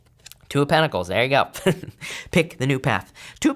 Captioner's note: chuckles